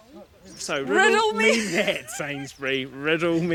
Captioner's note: laughs